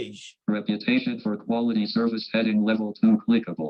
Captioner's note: automated Voice